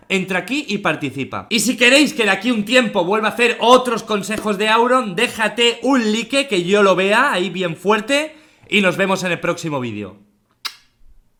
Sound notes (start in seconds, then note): 10.6 blow kisses